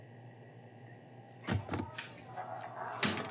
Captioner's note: Door opens